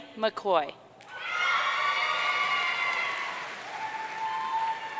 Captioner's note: audience cheering